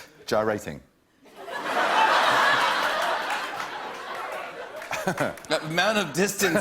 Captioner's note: laughter